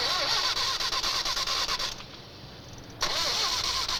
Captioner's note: engine Continues Cranking